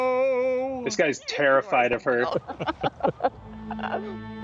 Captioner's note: chuckle